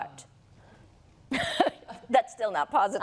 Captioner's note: laughter